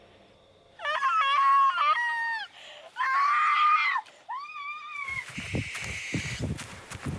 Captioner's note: Alicia screaming; tense music